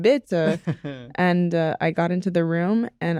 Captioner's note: in french accent; in normal voice